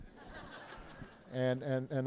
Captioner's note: laughter